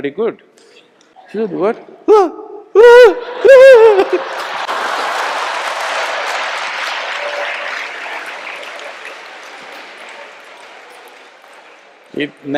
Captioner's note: laughter/Applause